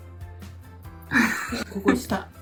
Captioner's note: laughs